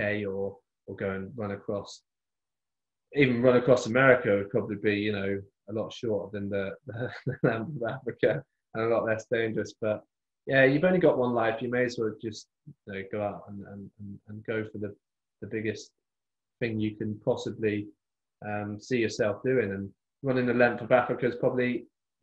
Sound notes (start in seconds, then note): 6.9 laughs